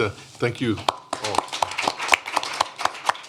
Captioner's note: applause